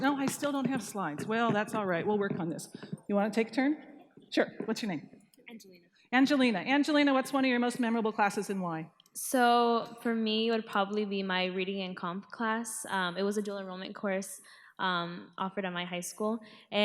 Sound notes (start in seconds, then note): none